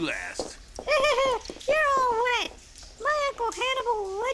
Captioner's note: 笑声